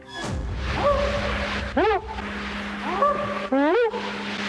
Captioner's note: howling